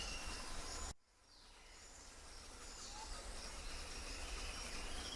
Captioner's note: birds chirping